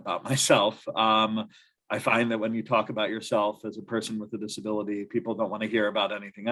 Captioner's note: laughter